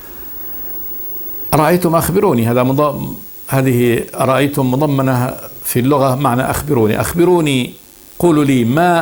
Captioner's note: Arabic